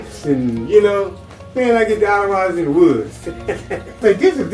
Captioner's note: laughs